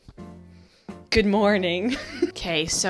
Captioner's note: giggles